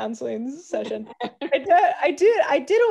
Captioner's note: laughs